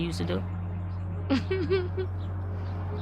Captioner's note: laughs